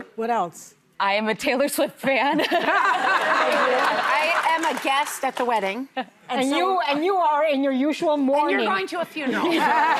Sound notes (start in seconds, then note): 2.7 audience laughing